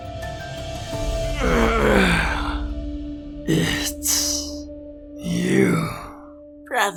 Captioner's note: grunt